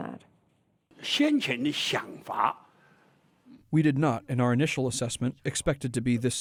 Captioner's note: through translator